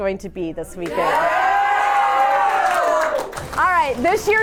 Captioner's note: crowd clapping